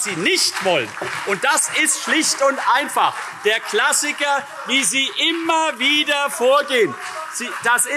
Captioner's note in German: Beifall CDU, SPD, BÜNDNIS/90 DIE GRÜNEN und Freie Demokraten